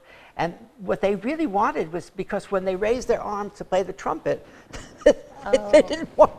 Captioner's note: laughter